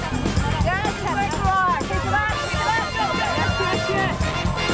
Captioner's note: shouting and hollering